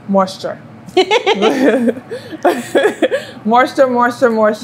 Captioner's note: laughs